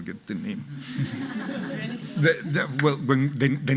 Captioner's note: audience laughing